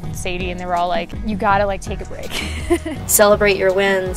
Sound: laughs

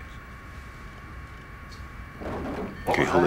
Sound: loud clunk

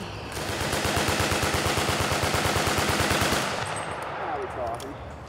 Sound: shots firing

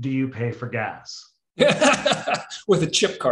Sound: laughter

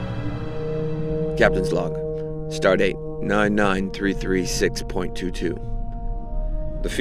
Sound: voiceover

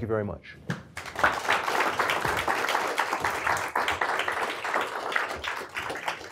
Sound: applause

